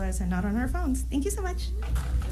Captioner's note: applause